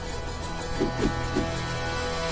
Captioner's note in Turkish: Kılıç Sallama Sesleri